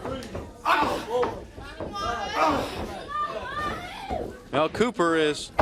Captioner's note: crowd chatter